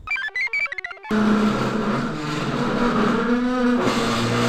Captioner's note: computer chirps; chair squeals